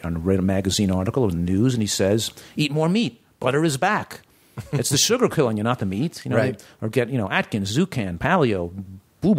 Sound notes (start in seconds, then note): 4.6 laughter